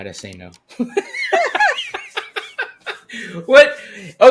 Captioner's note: both laughing